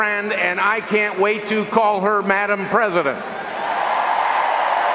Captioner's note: cheering and applause